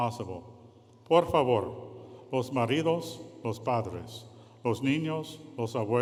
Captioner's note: speaking in foreign language